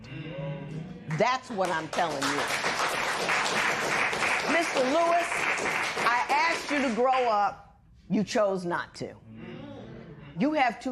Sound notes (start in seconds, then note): 1.6 applause